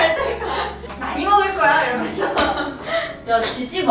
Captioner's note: haha